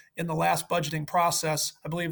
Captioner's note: none